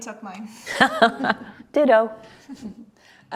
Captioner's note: laughs